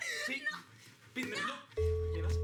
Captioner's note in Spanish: Risas